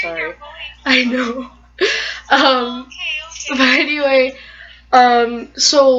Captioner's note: laughter and looking off screen; continued laughter, friend talking on phone